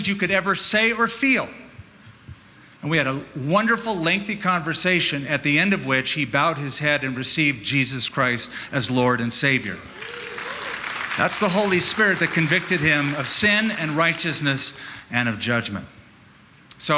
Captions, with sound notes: you could ever say or feel. And we had a wonderful lengthy conversation, at the end of which he bowed his head and received Jesus Christ as Lord and Savior. [APPLAUSE] That's the Holy Spirit that convicted him of sin and righteousness and of judgment.